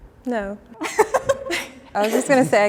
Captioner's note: group chuckles